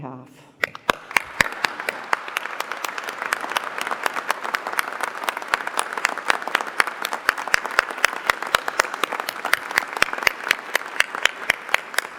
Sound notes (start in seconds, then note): 1.5 applause